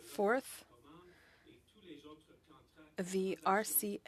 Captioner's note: speaking French